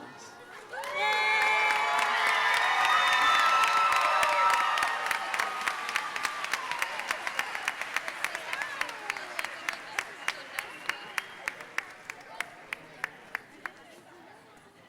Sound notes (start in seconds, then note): 0.2 cheering and applauding; 8.7 nurses chattering